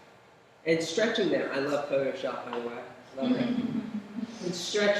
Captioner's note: laughter